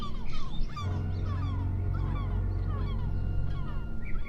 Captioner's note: ominous music continues; gulls squawking